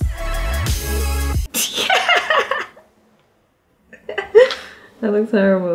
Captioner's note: laughter